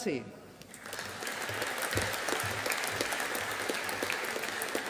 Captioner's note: audience applauding